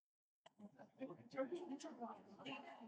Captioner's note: audience Chattering